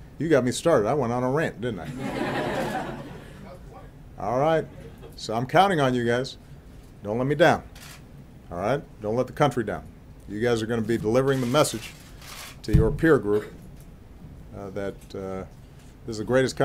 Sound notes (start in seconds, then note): 3.8 laughter